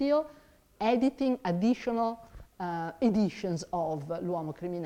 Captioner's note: speaks in foreign language